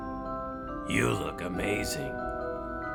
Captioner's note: whispers